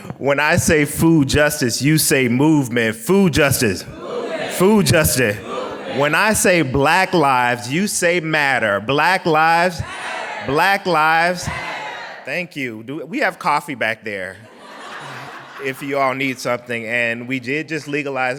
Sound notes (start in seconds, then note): 3.9 crowd; 5.9 crowd; 9.3 crowd; 11.9 crowd